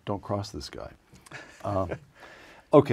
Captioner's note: laugh